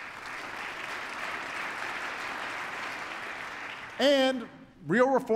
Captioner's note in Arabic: تصفيق